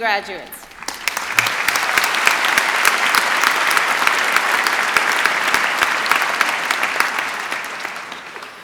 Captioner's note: applause